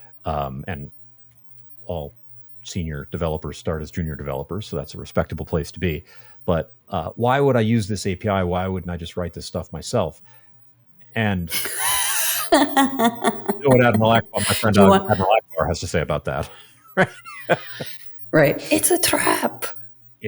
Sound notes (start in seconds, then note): 11.5 laughing; 17.4 laughing